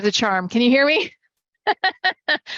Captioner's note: laughs